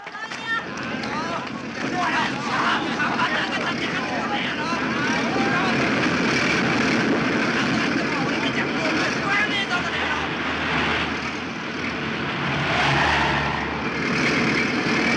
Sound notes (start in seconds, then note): 3.0 voices of people protesting